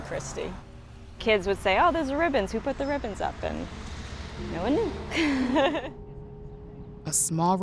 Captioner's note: laughs